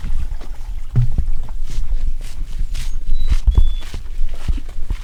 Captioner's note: water burbling; bird chirps